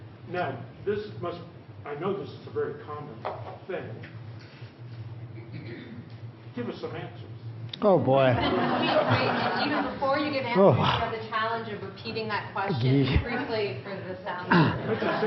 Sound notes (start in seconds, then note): 8.4 笑聲; 10.9 laughter; 11.3 hostess voice